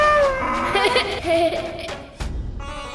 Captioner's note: giggles